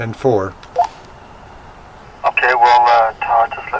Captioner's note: radio beeping